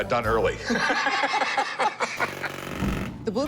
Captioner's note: both laughing